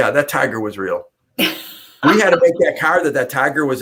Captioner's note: laughter